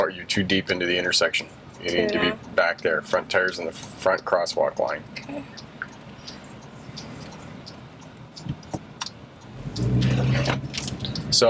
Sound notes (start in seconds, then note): 6.5 turn signals clicking; 9.4 engine revving